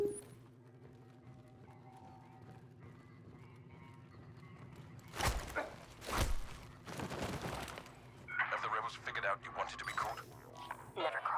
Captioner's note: beeps